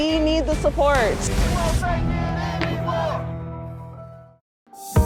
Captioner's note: crowd